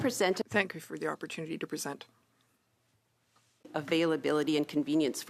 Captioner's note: speaking French